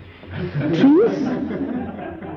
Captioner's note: laughter